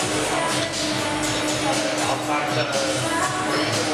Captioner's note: crowd noise